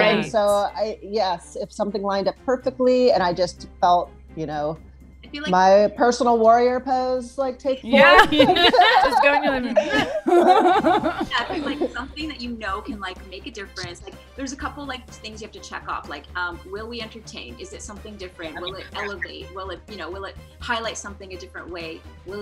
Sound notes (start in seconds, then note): 7.8 laugh